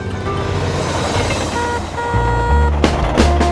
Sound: car honking

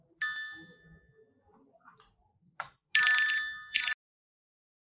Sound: phone ringing

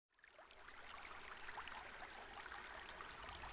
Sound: water gurgling

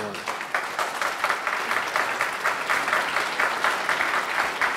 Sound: audience clapping

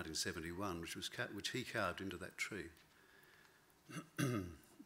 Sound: clears throat

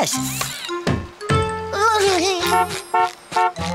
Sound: humming; honking

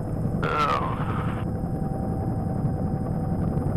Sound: groans

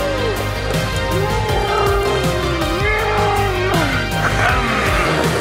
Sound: motor vehicle sounds effects

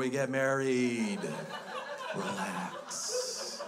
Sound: crowd laughs

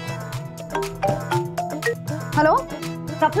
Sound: mobile phone chimes

